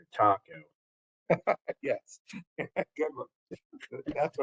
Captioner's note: laugh